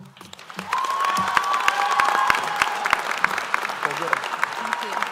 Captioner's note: applause